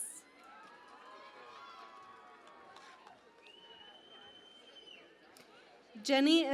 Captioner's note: cheering and Applause